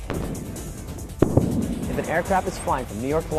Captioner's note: sonic booms